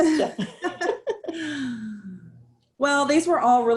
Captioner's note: laughter